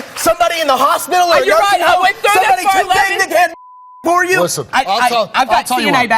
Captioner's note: beep